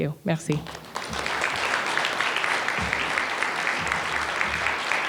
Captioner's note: applause